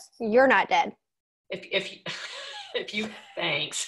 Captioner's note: laughing